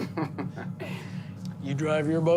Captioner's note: laughter